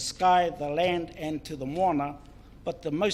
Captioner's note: foreign Language